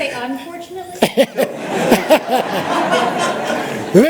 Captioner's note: laughter